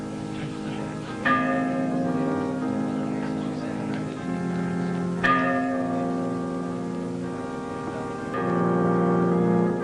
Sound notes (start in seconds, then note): 0.0 congregants chattering indistinctly; 0.3 somber organ music; 1.2 bell pealing; 3.0 somber organ music; 4.2 bell pealing; 6.4 somber organ music